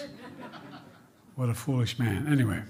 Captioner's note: laughter